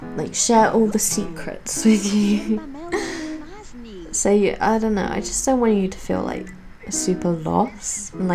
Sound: giggles

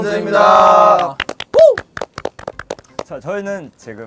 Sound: clap

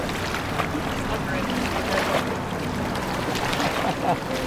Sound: people chattering

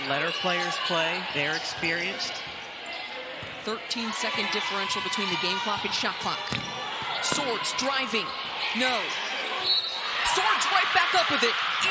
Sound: crowd noise

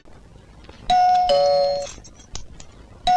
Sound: door Bell

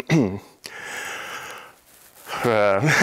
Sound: inhales

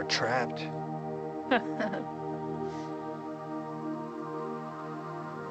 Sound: women chuckling

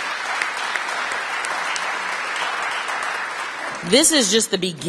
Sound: applause

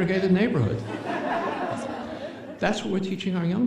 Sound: chuckles

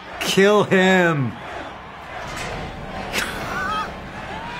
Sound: cheering

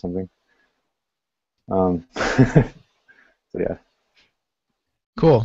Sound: laughter

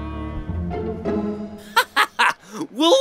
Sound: laughs

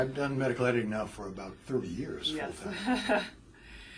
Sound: laugh

